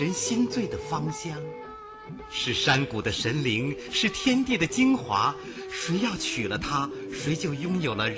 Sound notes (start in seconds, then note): 2.3 speaking in Mandarin